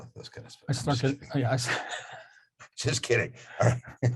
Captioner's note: laughs